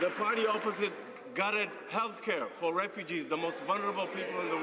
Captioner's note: some Applause